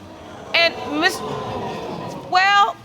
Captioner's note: audience exclaiming